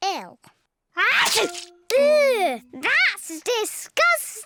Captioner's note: sneezes